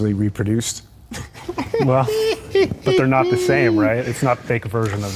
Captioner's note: laughs